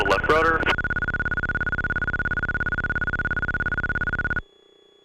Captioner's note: alarm beeping